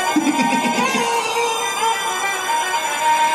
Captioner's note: laughs